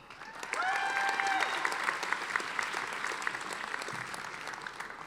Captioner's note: audience applauding